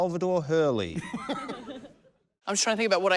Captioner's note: laughter